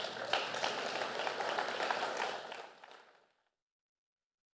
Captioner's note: applause